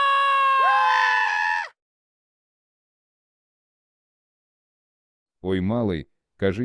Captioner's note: Frisk's scream; Sans's scream